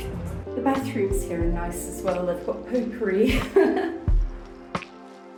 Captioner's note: laughing; chill music